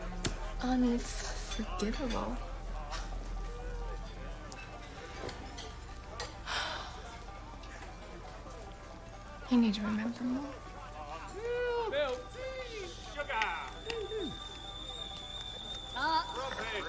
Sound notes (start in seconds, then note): 2.8 chuckles; 6.4 sighs; 11.3 tea kettle whistling